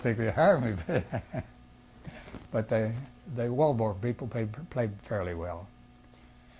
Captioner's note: laughs